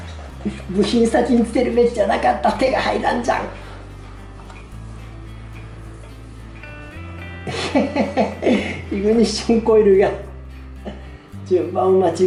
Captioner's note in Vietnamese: cười